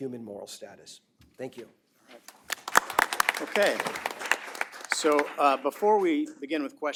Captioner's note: applause